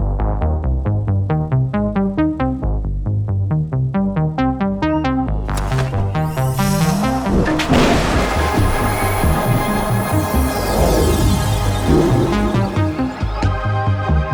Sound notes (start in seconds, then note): 6.5 mechanical whirring; 8.3 lightning crashes; 11.6 intense music